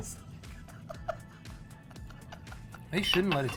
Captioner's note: laughing